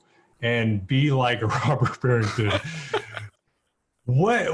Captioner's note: laughs